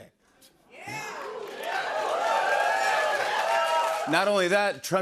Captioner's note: cheers and applause